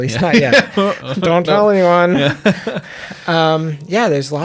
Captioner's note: laughs